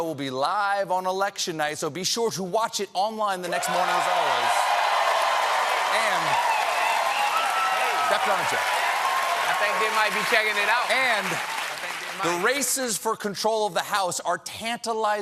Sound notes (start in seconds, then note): 3.4 cheers and applause